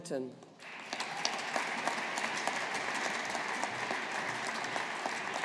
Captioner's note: audience applauding